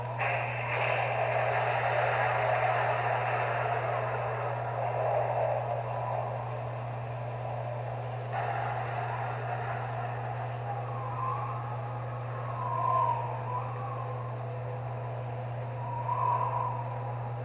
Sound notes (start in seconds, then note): 0.2 thunderclaps; 10.8 wind Blowing